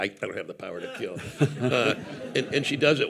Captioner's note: participants and audience laughing